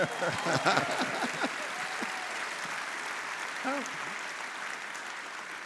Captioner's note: laughing; audience applauding